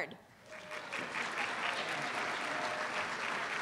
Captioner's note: applause